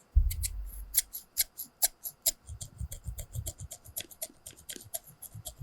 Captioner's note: snip snip